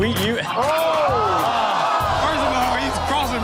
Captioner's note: crowd groans